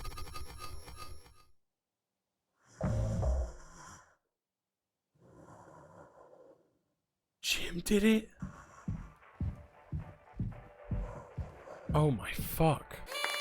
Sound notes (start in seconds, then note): 3.6 Curly breathes haggardly; 13.1 party horn toots